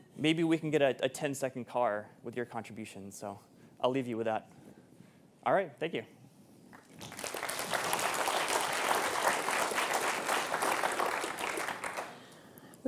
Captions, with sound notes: maybe we can get a 10-second car with your contributions, so I'll leave you with that. All right, thank you. (audience applauding)